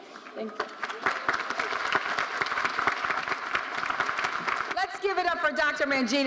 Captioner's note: audience applauding